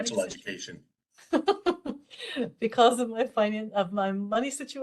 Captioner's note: laughter